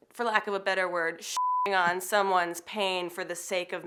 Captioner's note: beep